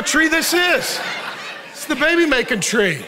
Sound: congregation laughing

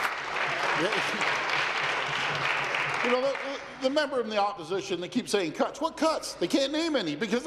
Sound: applause

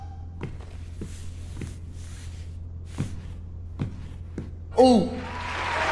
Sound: footsteps; applause

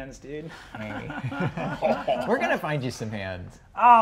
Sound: laughs

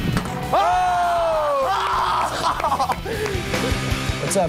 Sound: cheering

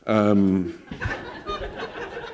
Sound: laughter

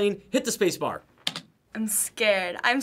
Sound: space bar clacks

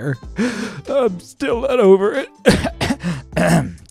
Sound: sobbing; clears throat

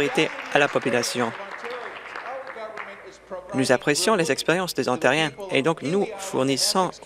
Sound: applause

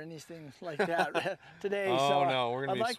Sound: laughter

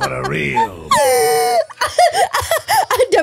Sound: laughing

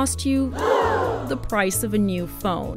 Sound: gasp!

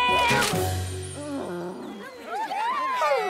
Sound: excited cheering

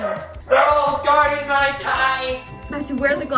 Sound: ding

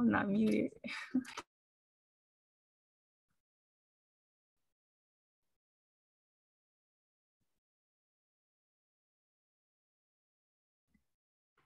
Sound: chuckles

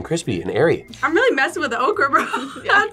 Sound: laughs

